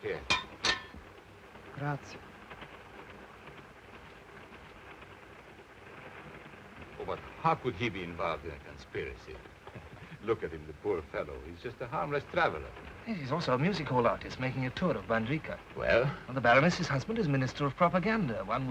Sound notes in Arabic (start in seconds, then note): 3.1 صوت خشخشة القطار; 9.8 يضحك